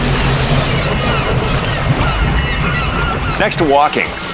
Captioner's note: bell dinging